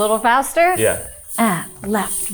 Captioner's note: hip scarf jingling